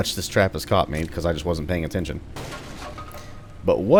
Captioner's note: smash